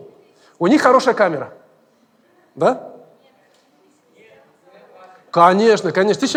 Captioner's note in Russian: голоса из зала